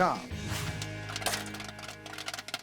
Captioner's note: pop